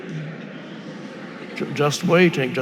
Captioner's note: audience laughing